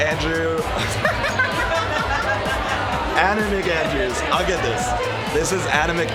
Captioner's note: laughs